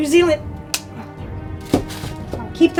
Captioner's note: outlet thuds; outlet snaps